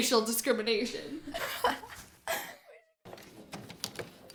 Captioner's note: laughing